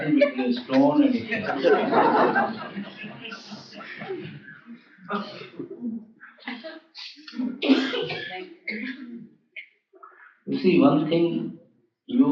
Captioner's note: laughter